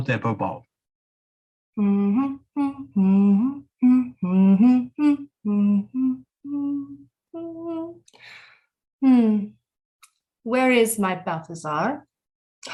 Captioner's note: humming and dancing